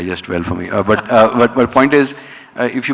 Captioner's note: laughing